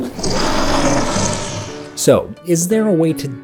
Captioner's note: bear growling